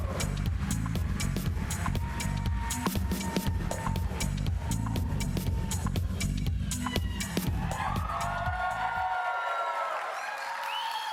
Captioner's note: applause